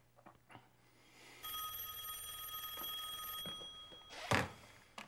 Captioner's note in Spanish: teléfono suena